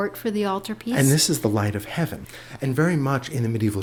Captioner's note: voiceover